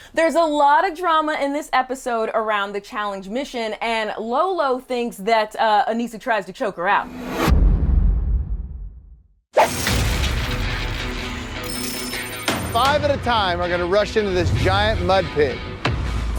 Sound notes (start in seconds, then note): 7.3 thundering boom; 9.6 intense music